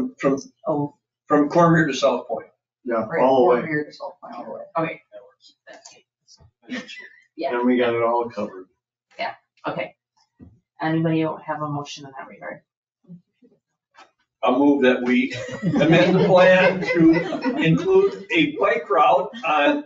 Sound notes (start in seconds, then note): 5.7 speaks distantly; 14.4 people laugh